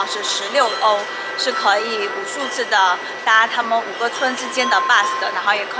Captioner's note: train